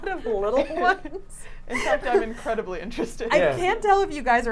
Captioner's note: laughs